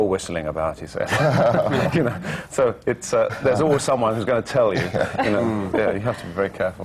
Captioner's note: laughter